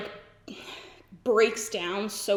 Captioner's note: sighs